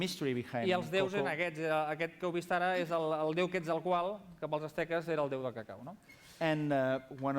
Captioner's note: non-english speech